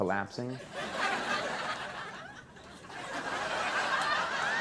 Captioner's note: audience laughing